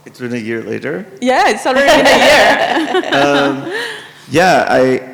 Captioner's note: participants laugh